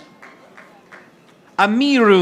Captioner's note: audience applauding